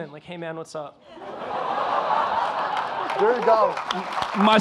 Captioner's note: audience laughing; audience applauding